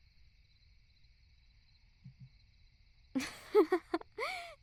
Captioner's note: laugh